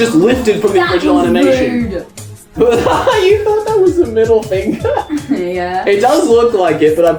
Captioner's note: laughs